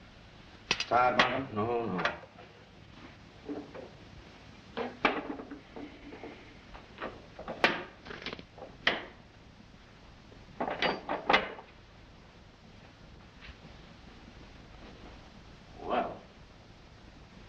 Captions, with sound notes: - Tired, Markham? - No, no. [crunching] [objects clattering] Well..